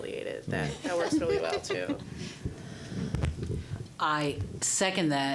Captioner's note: all laughing